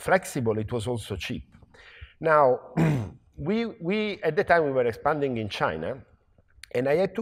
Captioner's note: cough